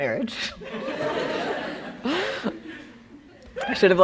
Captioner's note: laughing